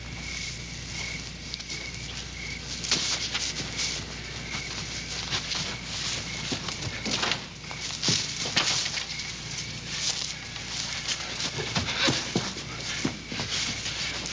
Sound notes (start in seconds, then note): 11.0 Olaf panting